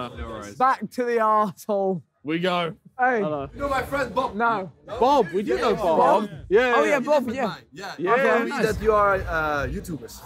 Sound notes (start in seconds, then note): 5.8 indistinct chattering